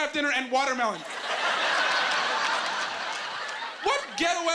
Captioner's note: laughing